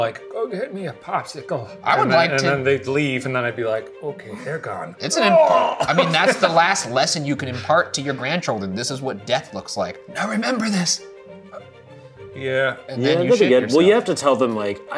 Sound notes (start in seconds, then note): 5.1 groans